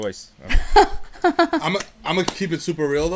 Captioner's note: laughing